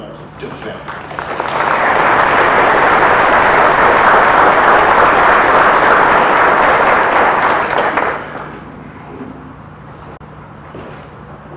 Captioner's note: audience applause